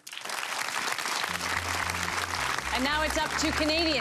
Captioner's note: audience applause